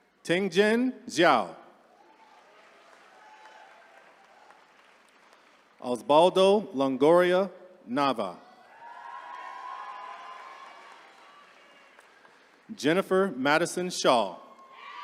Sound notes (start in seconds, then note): 3.5 attendees cheering; 8.5 attendees cheering; 14.4 attendees cheering